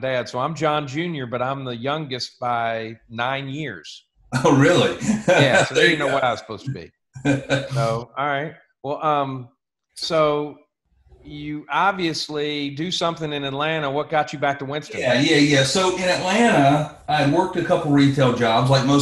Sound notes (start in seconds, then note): 7.2 laughs